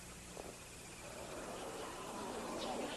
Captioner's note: crowd gasps